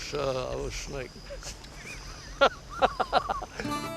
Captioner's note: laughter